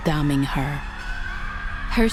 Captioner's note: shrieking continues